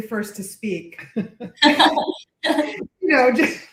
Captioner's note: laughter